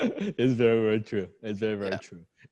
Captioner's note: laughing